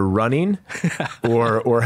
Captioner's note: laughs